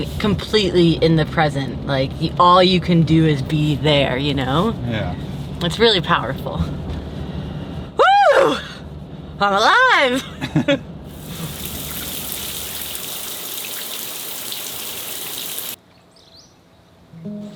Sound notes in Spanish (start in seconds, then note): 10.1 los dos ríen; 11.1 agua cayendo